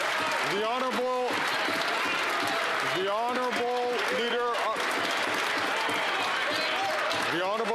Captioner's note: some Applause